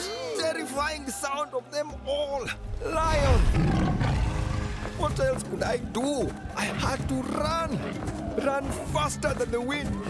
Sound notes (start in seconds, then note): 3.0 roaring